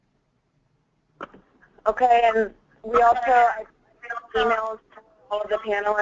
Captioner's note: voiceover